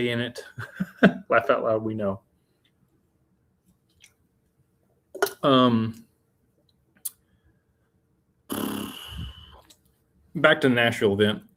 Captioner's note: laughter